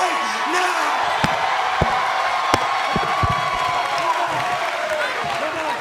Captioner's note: cheers and applause